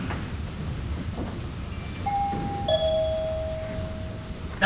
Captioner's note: doorbell